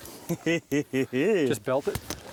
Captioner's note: laughs